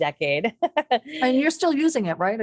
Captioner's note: laughs